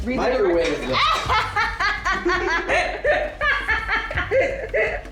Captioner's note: laughing